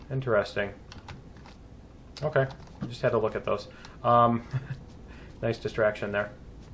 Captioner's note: laughs